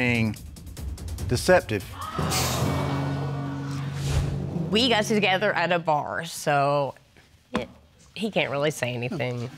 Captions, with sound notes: deceptive. [audience gasps] We got together at a bar, so... he can't really say anything.